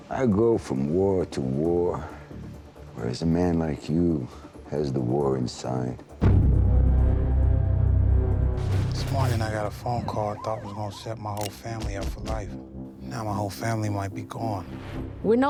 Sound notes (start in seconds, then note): 5.8 ominous music; 8.2 gunshots; 9.2 police sirens